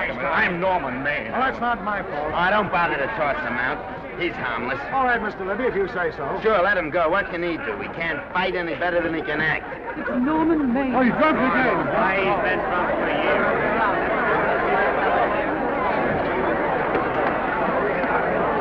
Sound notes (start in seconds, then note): 12.7 chattering